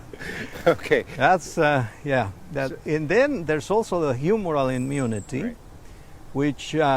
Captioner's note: chuckle